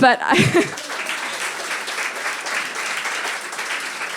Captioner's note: audience applauding